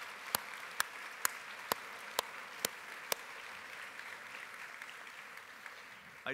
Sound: applause

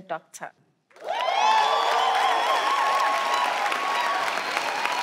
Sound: audience cheering

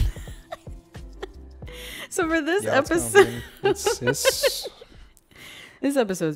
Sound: laughs

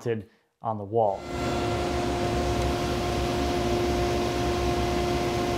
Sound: machine whirring

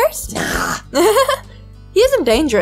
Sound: giggles

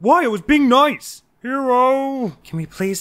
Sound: petulantly

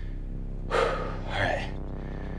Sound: exhales

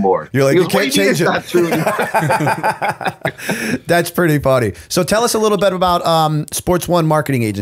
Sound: chuckle

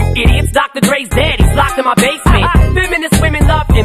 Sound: haha

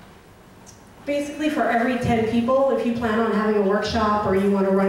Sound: voiceover

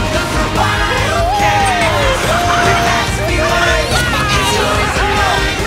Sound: laughing, cheering

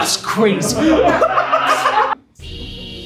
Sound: laughter

